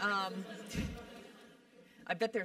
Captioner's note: laugh